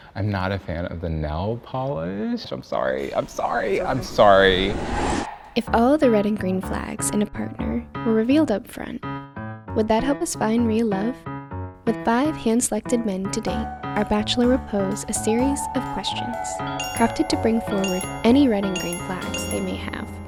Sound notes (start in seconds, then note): 5.2 dramatic music; 16.6 bell chimes